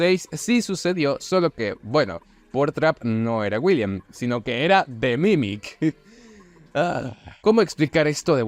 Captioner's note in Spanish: suspira